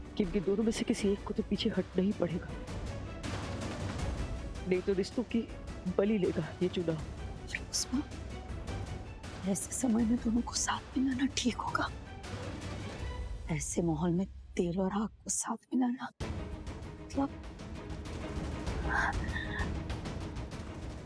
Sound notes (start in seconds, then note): 18.8 gasping